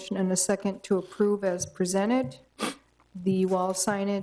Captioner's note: attendee sniffs